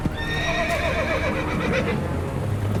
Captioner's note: horse whinnies